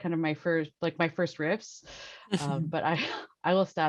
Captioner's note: laughs